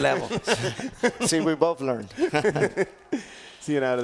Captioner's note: laugh